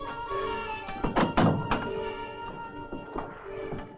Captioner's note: door clicking